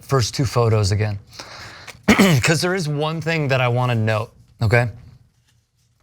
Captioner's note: cough